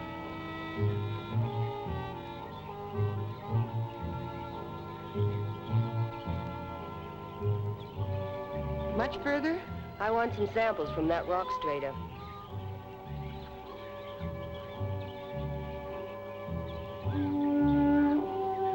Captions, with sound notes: Much further? - I want some samples from that rock straight up. (gentle music) (birds chirping)